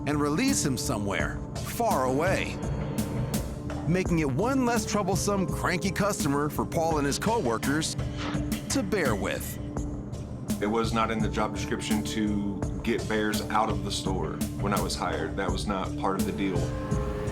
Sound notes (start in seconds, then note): none